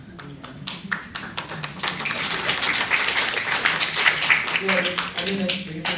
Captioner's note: applause